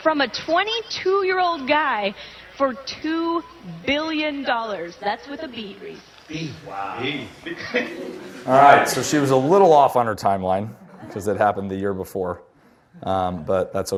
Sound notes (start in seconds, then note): 7.8 audience chatter; 10.8 laughter